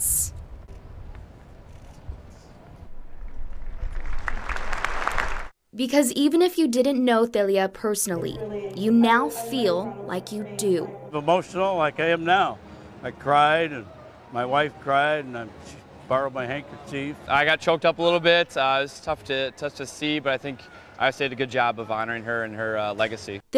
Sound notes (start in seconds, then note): 3.8 applause